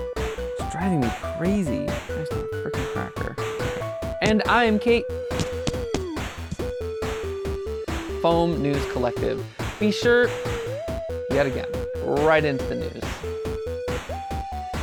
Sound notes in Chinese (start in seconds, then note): 5.2 麦克风撞击声